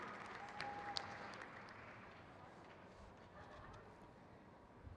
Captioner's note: crowd cheers